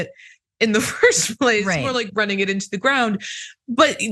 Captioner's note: laugh